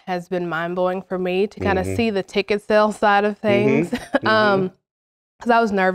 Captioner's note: laugh